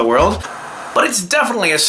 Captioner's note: static crackling